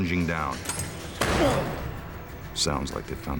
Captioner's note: Masked Magician grunts